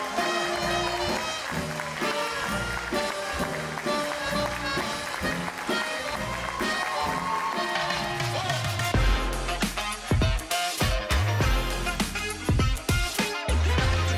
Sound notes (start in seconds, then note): 3.0 audience applauding; 3.0 bright jazz music continues; 9.1 upbeat music